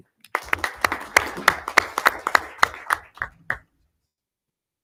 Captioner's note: people clapping